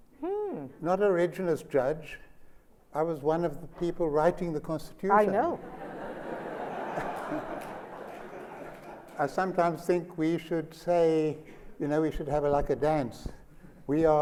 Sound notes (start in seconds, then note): 5.6 laughter